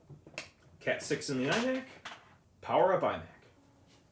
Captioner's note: tapping